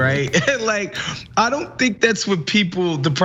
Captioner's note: laugh